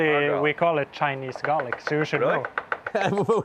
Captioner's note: laughs